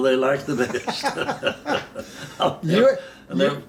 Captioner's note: both laughing